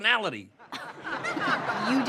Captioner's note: audience laughing